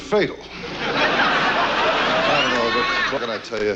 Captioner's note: audience laughs